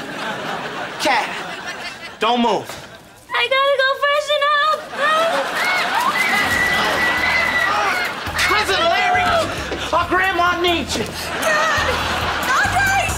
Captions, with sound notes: Cat, don't move. I gotta go freshen up! [screaming] Cousin Larry! Our Grandma needs you! Cat! Andre!